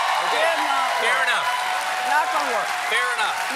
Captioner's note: cheers and applause